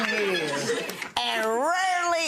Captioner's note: audience laughing